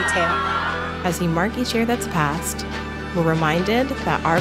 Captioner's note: voiceover